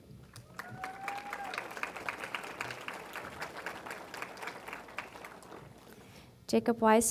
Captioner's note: applause